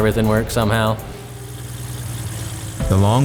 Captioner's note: blades whirring